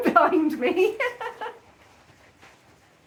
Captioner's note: laughing